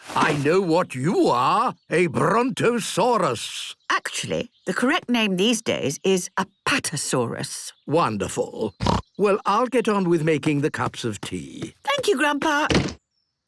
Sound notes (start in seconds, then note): 8.8 snorts